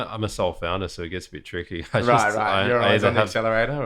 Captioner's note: laughter